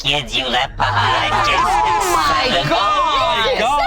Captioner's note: group laughs